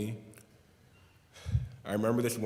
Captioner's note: heavy sigh